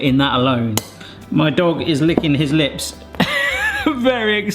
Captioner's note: chuckles